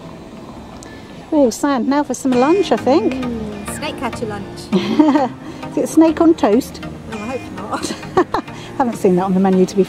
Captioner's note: giggle